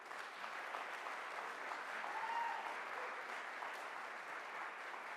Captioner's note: audience applauds